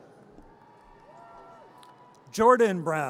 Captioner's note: audience cheers